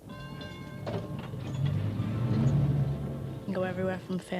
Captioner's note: traffic Noise and Train bell